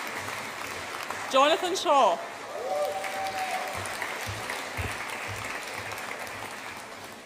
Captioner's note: audience applauds and cheers